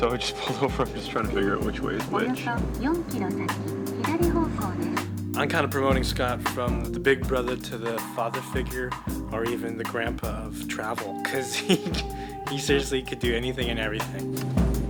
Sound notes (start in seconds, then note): 3.8 in Japanese; 11.3 laughing